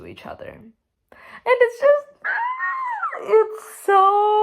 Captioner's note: incomprehensible squeal